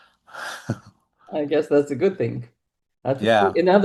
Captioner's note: chuckles